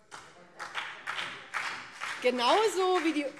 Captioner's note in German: Beifall BÜNDNIS 90/DIE GRÜNEN